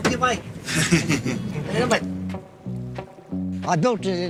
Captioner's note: laughs